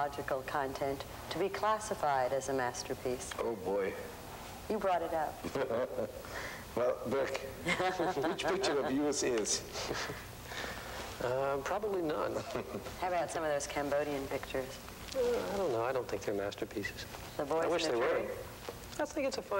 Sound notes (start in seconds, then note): 6.1 laughs; 9.7 snickers